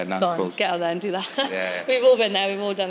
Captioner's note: laughs